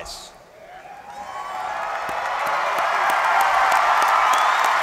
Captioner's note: applause